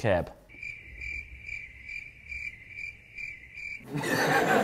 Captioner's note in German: Grillenzirpen